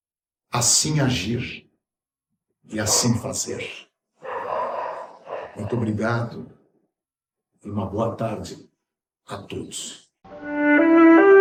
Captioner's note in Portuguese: suspirando